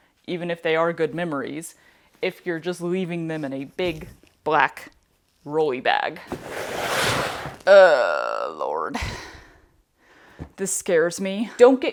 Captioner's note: Swish